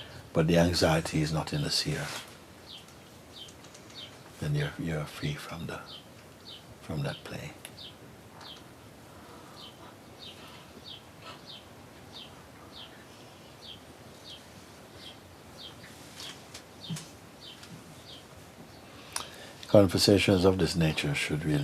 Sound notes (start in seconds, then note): 8.3 silence